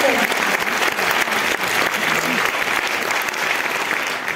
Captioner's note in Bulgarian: аплодисменти